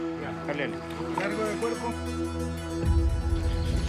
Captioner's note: Spanish language